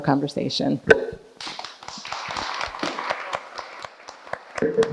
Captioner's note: audience applauding